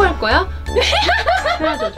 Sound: laugh

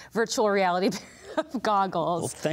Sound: laughs

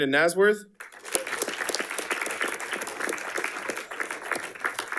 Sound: audience applauding

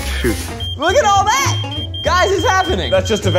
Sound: electronic beeping

